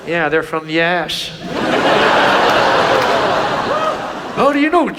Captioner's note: audience laughs